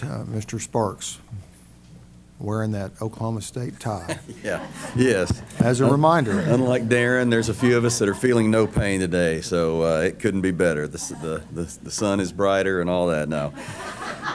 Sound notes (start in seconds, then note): 4.0 laughter